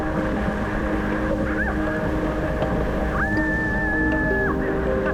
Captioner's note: screaming